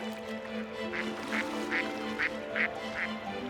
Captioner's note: duck quacks